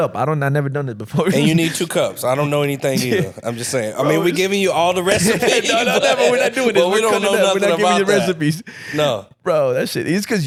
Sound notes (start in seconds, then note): 5.9 laughing